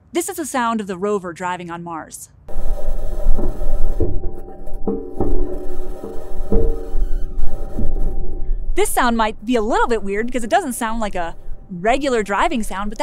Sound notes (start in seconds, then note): 2.9 metal clanking